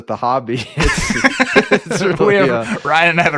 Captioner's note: laughing